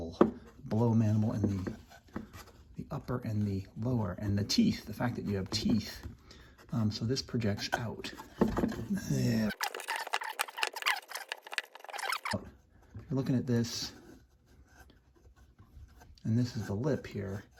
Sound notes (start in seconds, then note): 9.4 fast forward sounds